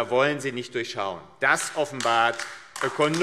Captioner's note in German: Beifall AfD